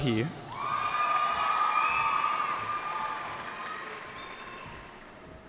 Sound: cheering

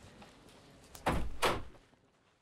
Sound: door closes

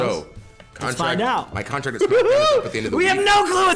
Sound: laugh

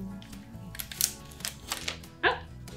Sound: packaging crinkles

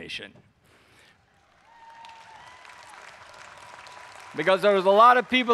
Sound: audience cheering

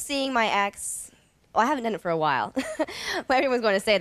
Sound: chuckles

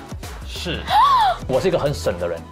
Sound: wah

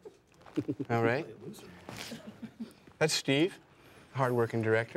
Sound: laughter

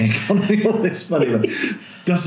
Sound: laughing

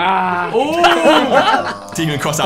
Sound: group oohing

